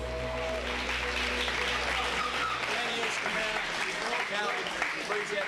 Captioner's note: applause